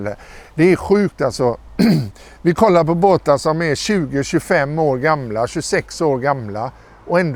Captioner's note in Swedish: harklar sig